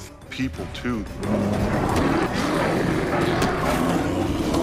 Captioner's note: bear growling